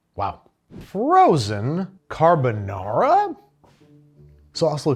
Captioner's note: air whooshes